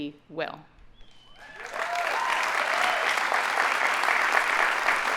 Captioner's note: audience applauding